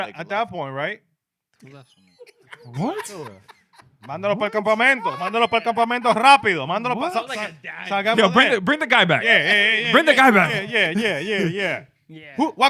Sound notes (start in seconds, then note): 3.5 laughing; 3.5 speaking In Foreign Language